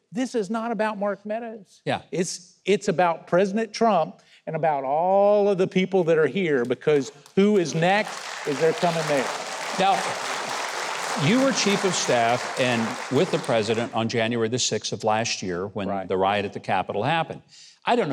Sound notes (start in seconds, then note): 9.6 audience clapping